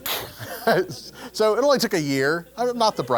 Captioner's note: laugh